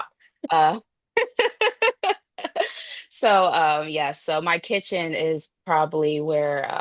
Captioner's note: laughs